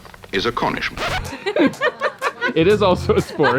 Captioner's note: both laughing